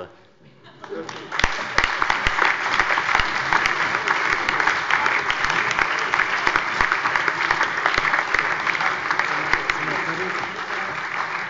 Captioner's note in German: Allgemeiner Beifall